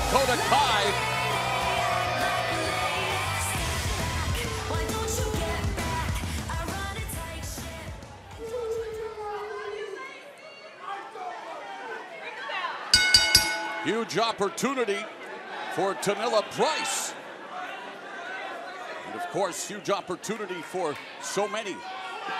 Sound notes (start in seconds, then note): 12.9 bell ringing